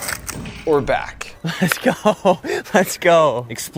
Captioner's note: laughs